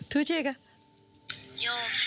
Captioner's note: speaking foreign language; child speaking foreign language